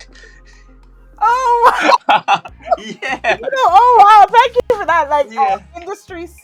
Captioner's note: both laugh